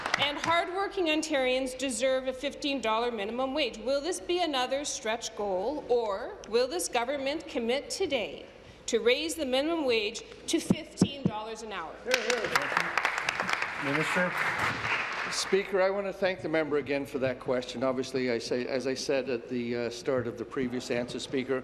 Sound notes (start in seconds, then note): 0.0 applause; 15.5 applause